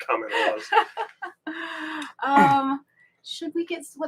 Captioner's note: laughing